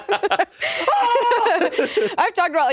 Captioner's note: everyone laughs; screams